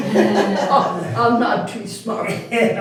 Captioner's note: all Laughing